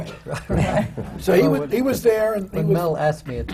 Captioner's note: laughter